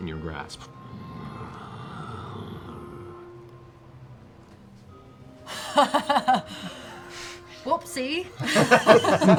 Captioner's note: laughs